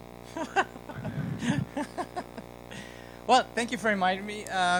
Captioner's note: laughter